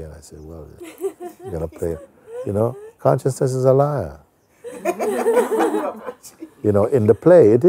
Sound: Lachen

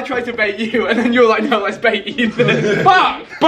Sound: laughing

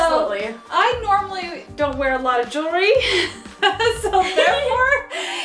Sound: laughs

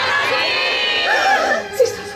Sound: the sisters e xclaim in surprise

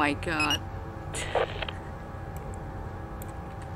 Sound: chuckles

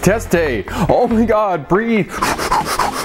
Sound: erratic breathing

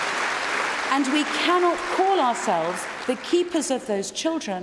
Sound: applause

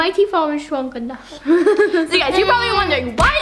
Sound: laughter

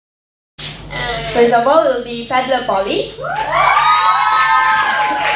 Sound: applause

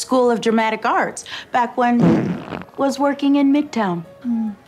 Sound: farts

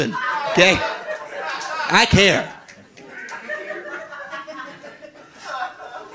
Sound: audience laughing

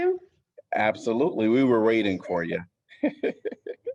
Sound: laughter

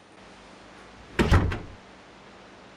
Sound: door Closes

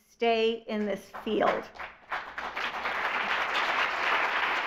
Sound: audience applauds

